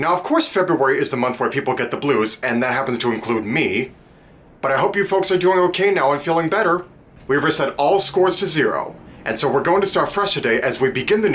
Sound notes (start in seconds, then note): none